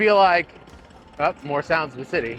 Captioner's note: machine rattling